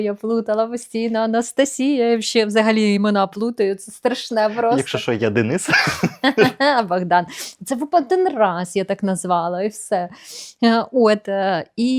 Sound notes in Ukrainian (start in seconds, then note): 5.6 сміх